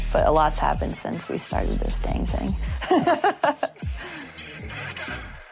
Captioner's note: laughs